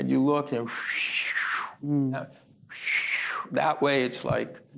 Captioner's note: breathy whistle